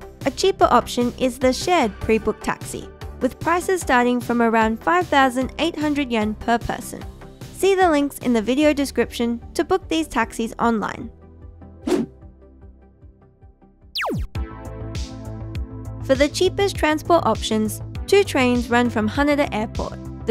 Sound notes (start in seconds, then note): 11.8 air whooshes; 13.9 laser firing; 14.0 lighthearted music